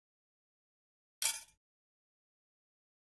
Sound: sound of drop

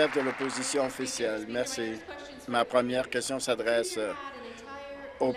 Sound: applause

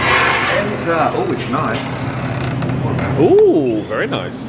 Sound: door creaks

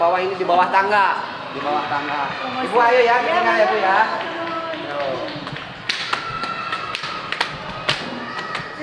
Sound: applause

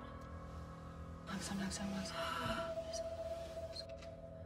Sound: groans

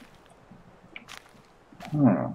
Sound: none

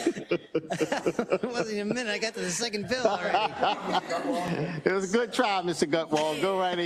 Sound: laugh

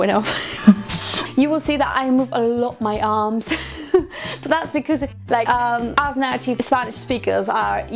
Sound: laughs; laughs

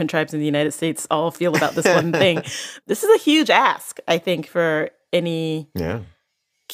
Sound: laughs

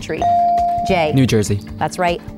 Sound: bell dinging

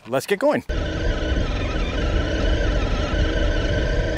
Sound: engine noises

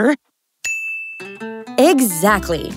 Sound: bell chimes

